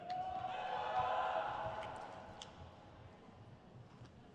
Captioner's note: crowd cheers